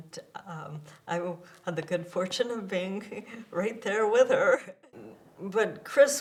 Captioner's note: chuckles